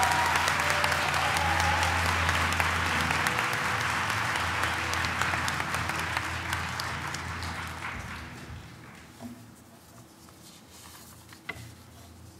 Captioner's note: applause